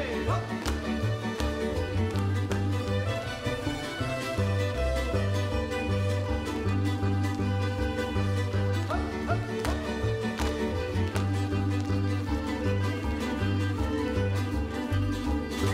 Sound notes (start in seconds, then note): 2.6 upbeat folk music; 10.1 feet stomping; 12.8 upbeat folk music